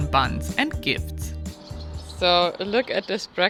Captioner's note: birds chirping